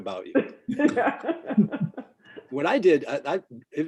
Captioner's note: laughing